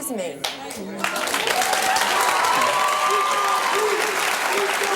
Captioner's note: audience applauds